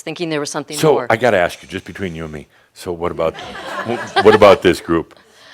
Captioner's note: some laughter